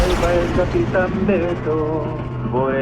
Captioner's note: fly-by sound; singing